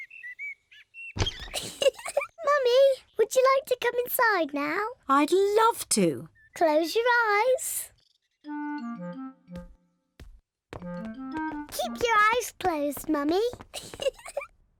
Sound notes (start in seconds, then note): 0.0 birds chirping; 1.5 giggles; 13.7 giggles